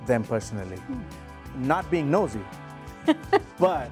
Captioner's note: laughing